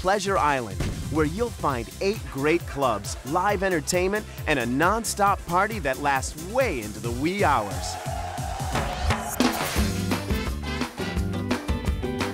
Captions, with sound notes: HEAD OVER TO PLEASURE ISLAND, WHERE YOU'LL FIND 8 GREAT CLUBS, LIVE ENTERTAINMENT AND A NONSTOP PARTY THAT LASTS WAY INTO THE WEE HOURS. [CROWD CHEERING]